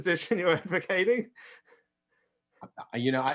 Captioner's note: chuckles